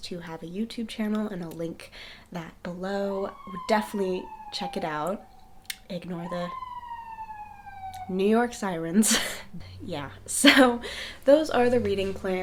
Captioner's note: sirens